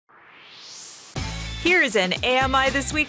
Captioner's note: swoosh